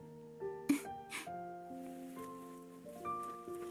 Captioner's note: sighs